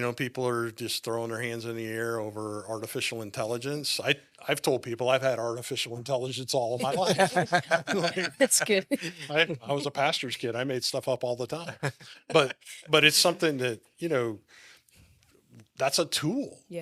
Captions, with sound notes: People are just throwing their hands in the air over artificial intelligence. I've told people I've had artificial intelligence all of my life. (laughing) - That's good. - I was a pastor's kid, I made stuff up all the time. But it's something that, that's a tool.